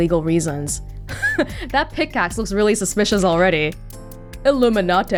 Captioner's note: chuckles